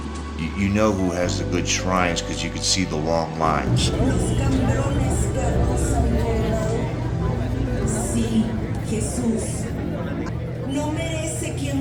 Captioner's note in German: Geschichte der Passion wird über Lautsprecher übertragen